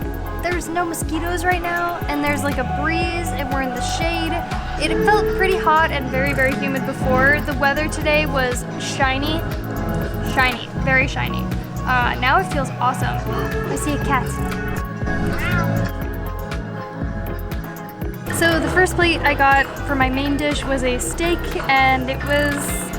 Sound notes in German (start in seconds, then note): 14.9 Maddie miaut